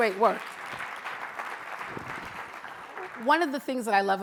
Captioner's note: audience applauds